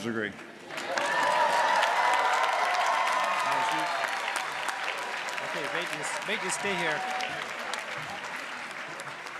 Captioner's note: applause